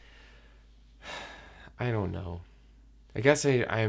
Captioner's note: sigh